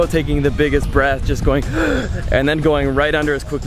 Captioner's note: breathes in deeply